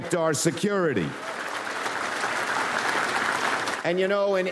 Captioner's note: audience applauds